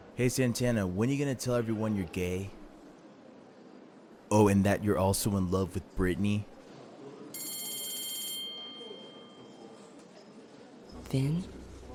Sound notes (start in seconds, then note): 7.3 school bell rings